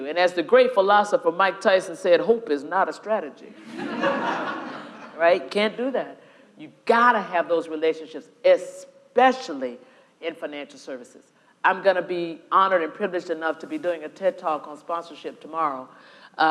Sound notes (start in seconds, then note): 3.6 audience laughing